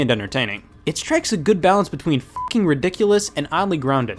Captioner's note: beep